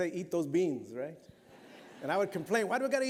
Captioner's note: laughter